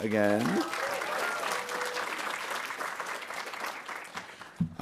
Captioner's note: audience applauding